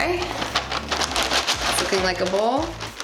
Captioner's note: cereal rattling